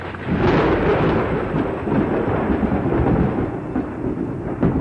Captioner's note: lightning cracks